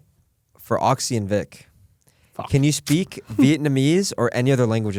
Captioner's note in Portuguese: risos